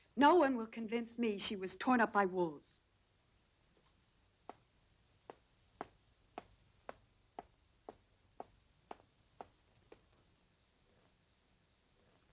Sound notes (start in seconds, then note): none